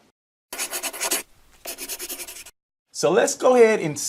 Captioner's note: scribbling